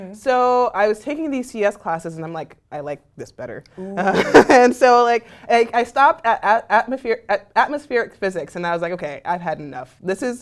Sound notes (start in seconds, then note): 3.8 laugh